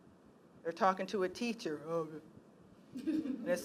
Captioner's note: deep voice; laughing